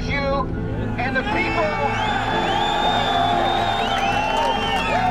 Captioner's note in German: Jubel